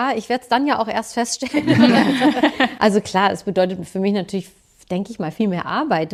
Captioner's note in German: gelächter